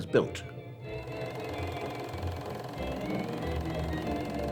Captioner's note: film reel clicking